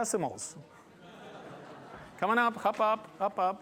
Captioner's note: laughter